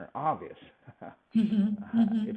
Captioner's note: laughs